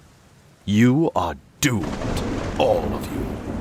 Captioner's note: thunder rolls